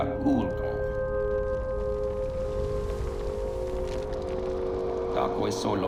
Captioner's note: fire crackling